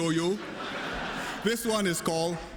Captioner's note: laughter